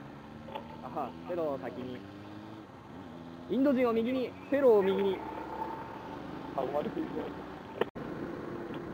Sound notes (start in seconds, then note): 1.1 motorcycle